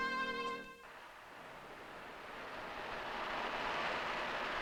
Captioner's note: traffic humming